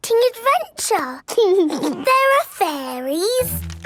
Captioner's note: snorts; giggles